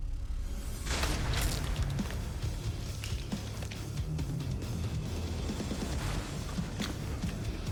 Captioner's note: blade impacts